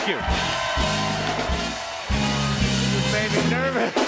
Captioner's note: cheers and applause